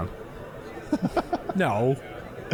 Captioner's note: laughing